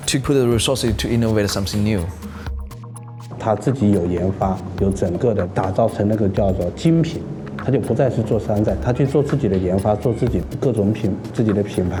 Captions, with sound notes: to put the resources to innovate something new. [speaker speaking in foreign language]